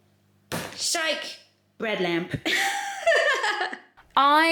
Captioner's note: laughing